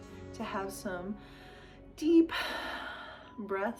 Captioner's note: exhales